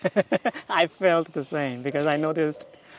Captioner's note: laughing